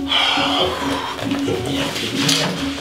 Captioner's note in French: Soupir